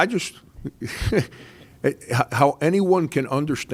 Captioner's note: laughs